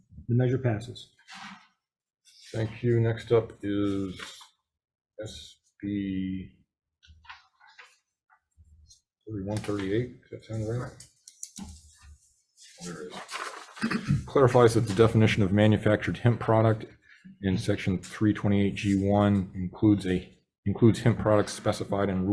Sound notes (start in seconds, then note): 13.5 papers rustling